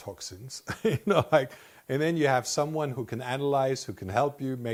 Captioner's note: laughs